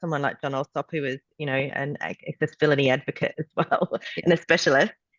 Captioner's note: laughs